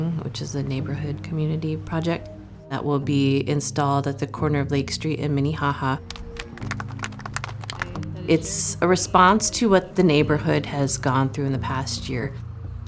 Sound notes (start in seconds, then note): 6.0 audience claps